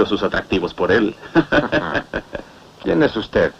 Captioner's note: chuckles